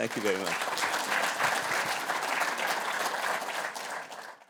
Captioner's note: applause